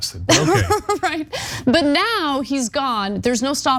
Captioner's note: laugh